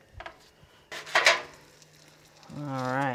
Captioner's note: metal clanging